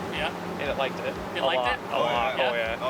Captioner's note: pat